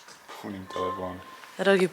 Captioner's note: horns